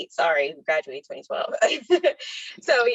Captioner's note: laughs